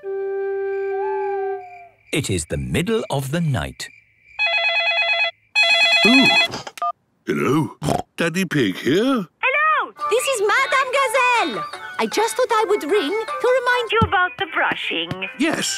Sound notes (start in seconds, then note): 0.8 owl hooting; 5.5 phone ringing; 7.7 snorting